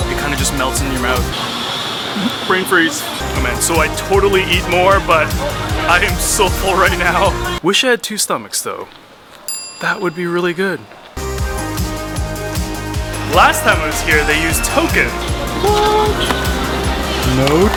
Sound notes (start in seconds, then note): 9.4 bell dinging